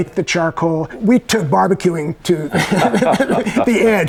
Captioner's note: chuckles